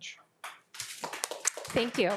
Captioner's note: attendees applauding